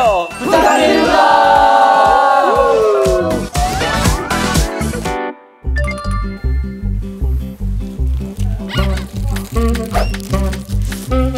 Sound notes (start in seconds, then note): 8.0 rustling; 9.8 Munch